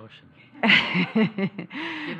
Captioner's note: laughter